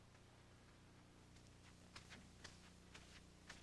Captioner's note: footsteps